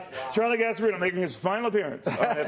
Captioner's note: laughter